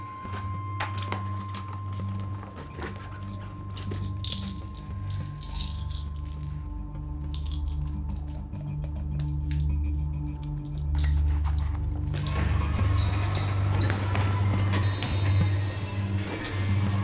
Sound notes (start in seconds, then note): 3.6 pills rattling; 9.1 dramatic, quietly tense electronic music; 11.7 shoes squeaking on floor